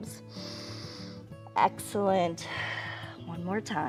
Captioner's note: exhales; inhales